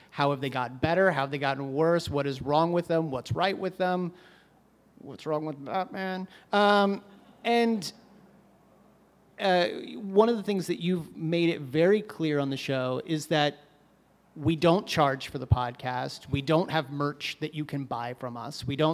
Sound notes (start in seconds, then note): 6.2 audience – scattered laughs